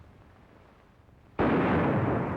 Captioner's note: gunshot